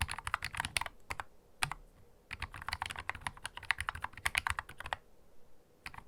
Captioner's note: keystroke sound; keystroke sound